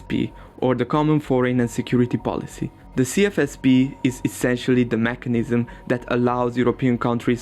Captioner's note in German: gasp